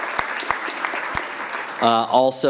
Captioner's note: applause